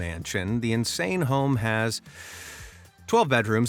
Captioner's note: breathes deeply